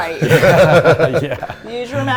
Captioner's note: everyone laughing